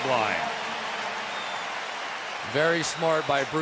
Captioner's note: cheering